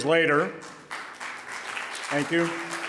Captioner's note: audience applauding